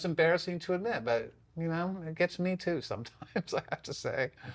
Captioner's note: laughs